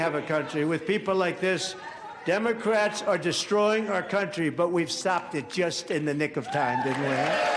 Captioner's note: applause